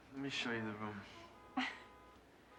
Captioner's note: chuckles